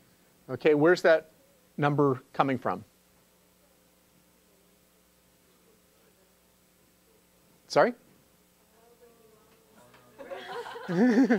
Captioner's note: laugh